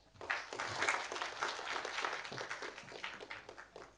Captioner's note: audience applauding